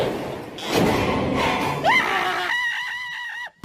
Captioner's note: wind blowing; screaming like a little girl